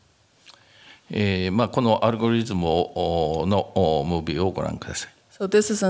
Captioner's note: speaking japanese